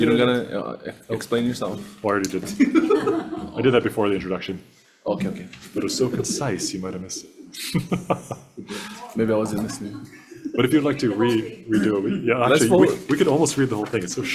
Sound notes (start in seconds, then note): 2.5 group laughs; 8.6 laughs